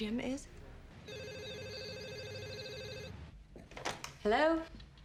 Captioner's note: phone rings